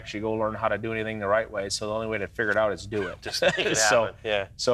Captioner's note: laughs